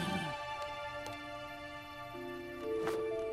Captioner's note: sighs